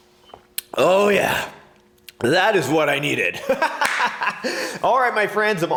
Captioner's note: laughs